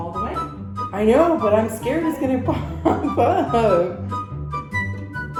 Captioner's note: laughs